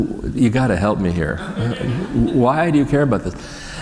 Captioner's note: laughter